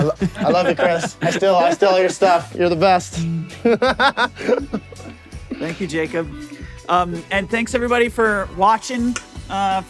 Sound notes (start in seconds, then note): 3.1 laughing